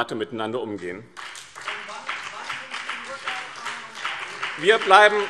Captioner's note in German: Beifall BÜNDNIS 90/DIE GRÜNEN und CDU - Zurufe DIE LINKE